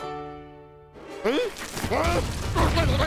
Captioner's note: confused grumbles